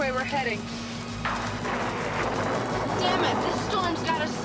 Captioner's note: thunder crashing